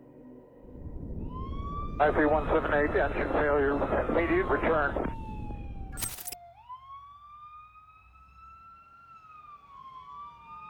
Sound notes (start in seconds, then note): 1.7 sirens blaring; 5.8 sirens blaring